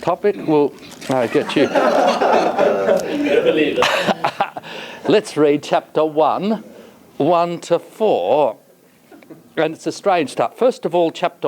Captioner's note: laughter